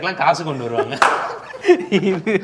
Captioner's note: laughs